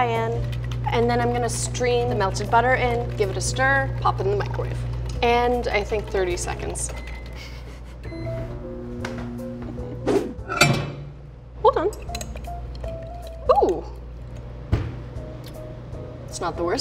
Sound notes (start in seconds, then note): 7.3 laughs; 8.3 lighthearted music